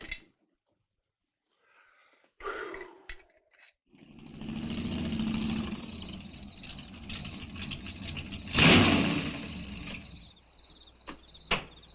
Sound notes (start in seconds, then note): 2.4 sheriff gasps; 3.9 engine rumbles; 6.1 insects chirping